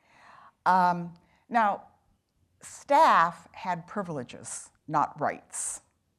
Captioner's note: none